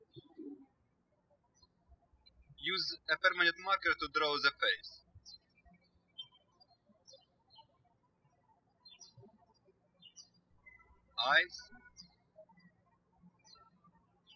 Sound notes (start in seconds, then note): 5.8 birds chirping; 12.8 birds chirping